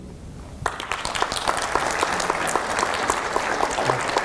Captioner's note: audience applauds